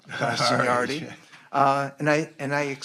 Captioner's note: men laughing